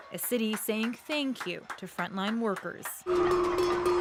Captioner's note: applause